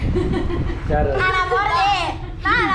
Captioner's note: giggling